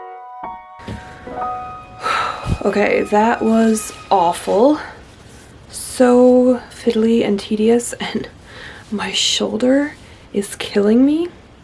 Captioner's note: music ends; deep breath